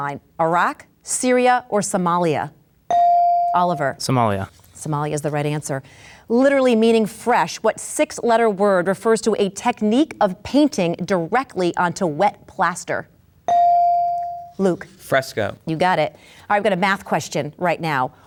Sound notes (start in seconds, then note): 2.9 bell dings; 13.5 bell dings